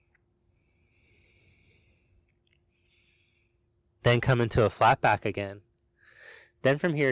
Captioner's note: inhales sharply